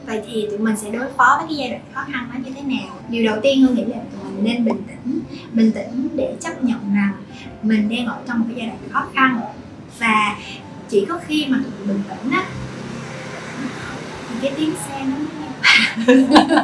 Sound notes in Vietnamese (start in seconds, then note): 12.9 tiếng xe máy chạy ào qua làm ồn